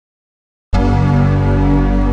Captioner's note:  Boot Up Sound